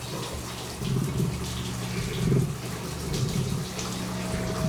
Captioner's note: low growling; eerie music plays